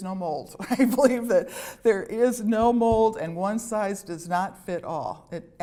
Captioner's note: laughter